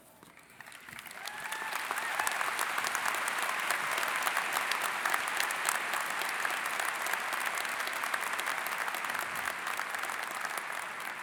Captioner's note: cheering and Applause